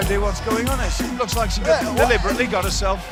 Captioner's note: bell ringing